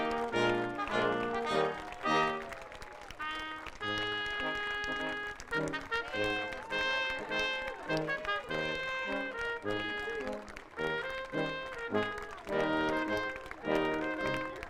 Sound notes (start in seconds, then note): 2.9 audience applauding; 4.5 upbeat processional music